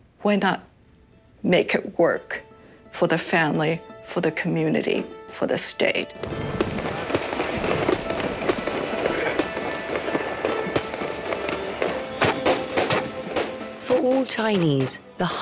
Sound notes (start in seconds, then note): 6.2 fireworks cracking; 6.2 gentle music